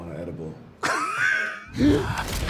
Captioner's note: laughing